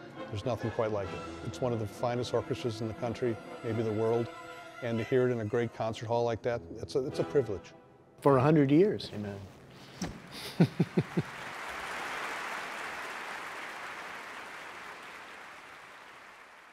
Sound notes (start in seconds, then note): 10.2 audience applauds; 10.3 chuckles